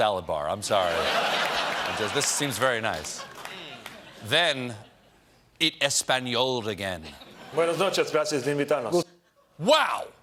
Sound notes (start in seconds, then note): 3.5 laughter; 8.5 speaking spanish